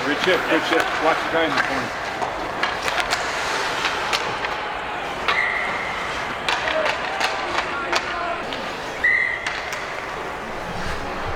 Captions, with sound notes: - Richard. Richard, watch Ben. [hockey puck clanking] [whistle blows]